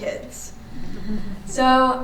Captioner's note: audience chuckling